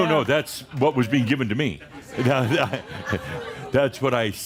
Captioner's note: Adamus chuckles